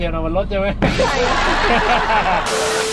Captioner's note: laugh